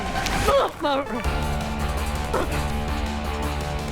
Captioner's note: groaning, gasping